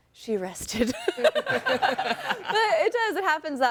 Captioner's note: all laughing